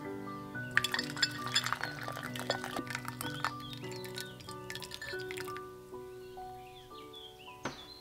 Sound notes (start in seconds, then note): 3.6 dripping